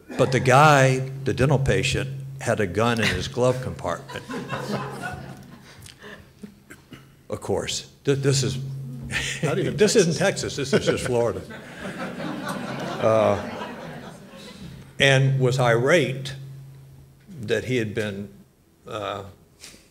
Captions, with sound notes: But the guy, the dental patient, had a gun in his glove compartment. (laughter) Of course, this is- - Not even Texas. - This isn't Texas, this is just Florida. (audience laughs) And was irate that he had been